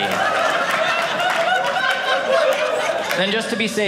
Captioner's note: audience laughing